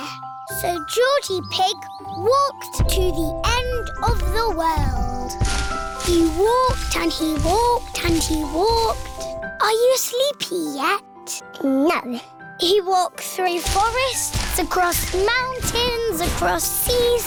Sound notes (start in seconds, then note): none